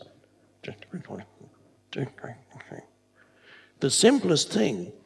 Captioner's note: imitates mumbling